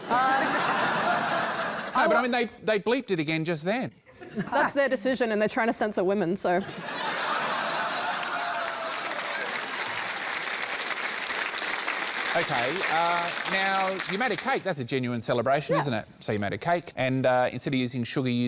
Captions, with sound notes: But, I mean, they bleeped it again just then. That's their decision, and they're trying to censor women, so... [LAUGHTER] [APPLAUSE] OK, uh... Now, you made a cake. That's a genuine celebration, isn't it? Yeah. So, you made a cake, and instead of using sugar you used salt. Yeah. Well...